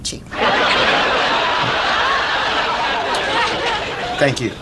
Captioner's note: audience laughs